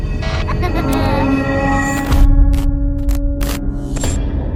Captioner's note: child laughing